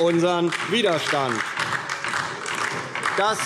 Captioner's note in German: Beifall DIE LINKE